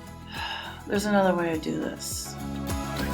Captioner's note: sigh